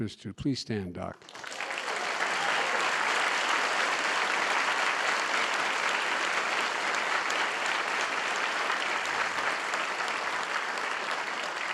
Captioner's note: applause